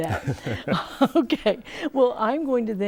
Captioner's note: laughing